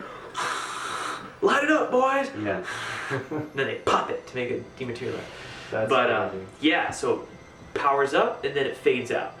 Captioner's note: blowing